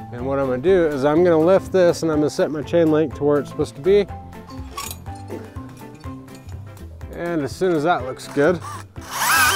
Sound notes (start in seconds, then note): 5.9 fence squeaking